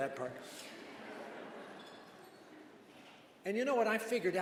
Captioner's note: chuckles